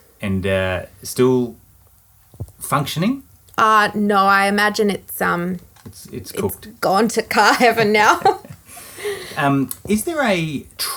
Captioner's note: both laughing